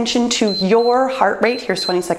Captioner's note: timer beeps